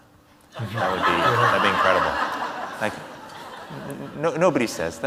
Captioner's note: audience laughs